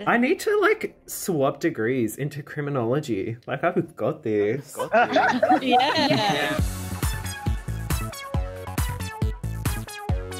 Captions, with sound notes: - I need to swap degrees into criminology. Like I've got this. (all laughing) - Yeah. (upbeat music)